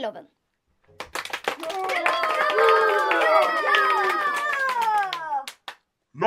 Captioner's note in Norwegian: Applaus